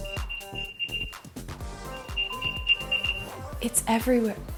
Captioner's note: rapid beeping